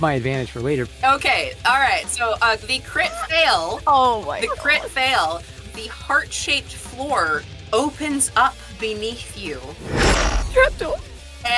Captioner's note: sliding metal